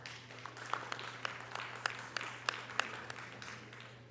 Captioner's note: audience applause